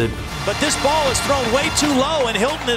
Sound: voiceover

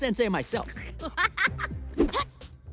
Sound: laughing

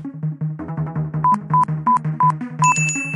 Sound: beeping

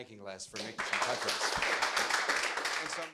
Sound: audience applause

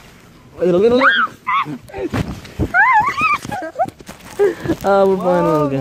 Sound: screaming

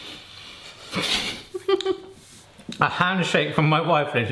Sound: laughing

